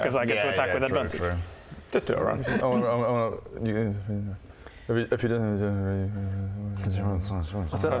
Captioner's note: none